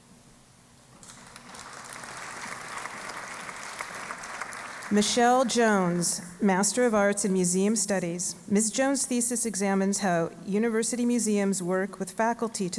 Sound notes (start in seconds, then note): 1.0 applause